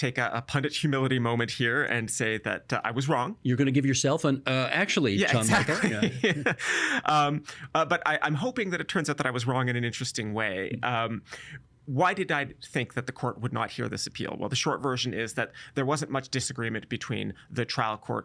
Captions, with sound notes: a pundit humility moment here and say that I was wrong. You're going to give yourself an "uh actually," John Michael. Yes, exactly. (Laughing) But I'm hoping that it turns out that I was wrong in an interesting way. Why did I think that the court would not hear this appeal? Well, the short version is that there wasn't much disagreement between the trial court